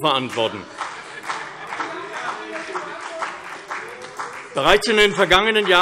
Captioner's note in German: Beifall CDU, BÜNDNIS 90/DIE GRÜNEN und SPD